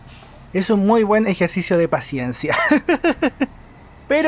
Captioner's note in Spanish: risas